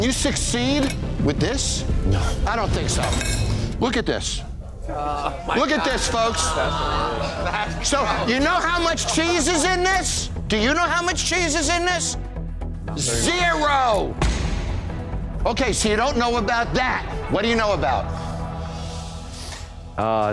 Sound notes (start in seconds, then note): 6.7 people shouting